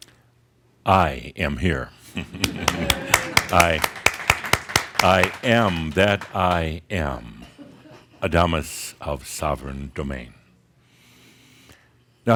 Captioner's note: audience applause